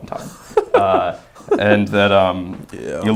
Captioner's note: laughing